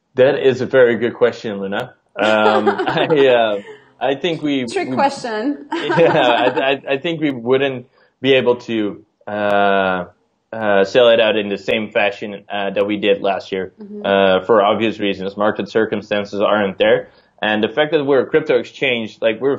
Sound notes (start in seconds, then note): 2.2 giggles